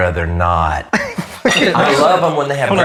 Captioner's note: laughs